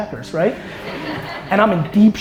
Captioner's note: audience laughter